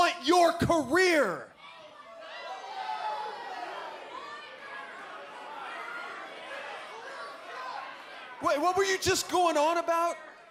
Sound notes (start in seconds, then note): 1.4 crowd chatter